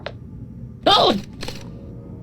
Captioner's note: Plushtrap startled scream